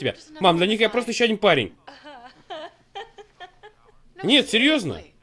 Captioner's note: laughs